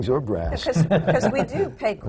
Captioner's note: laughter